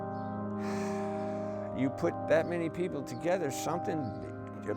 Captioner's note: heavy sigh